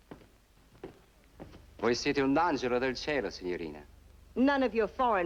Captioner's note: speaking italian